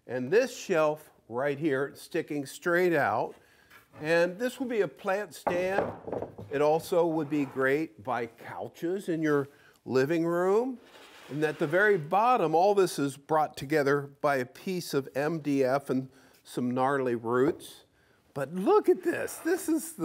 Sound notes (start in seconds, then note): none